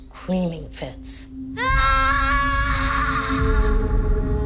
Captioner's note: screaming